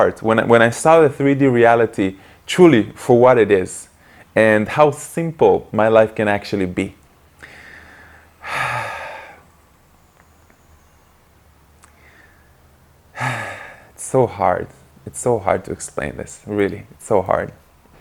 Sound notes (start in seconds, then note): 7.4 deep sigh